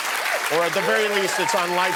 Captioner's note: cheers and applause